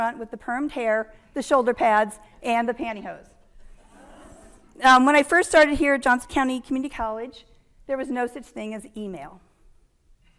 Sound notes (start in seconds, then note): 4.0 audience laughing